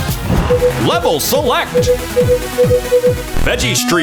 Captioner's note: beeping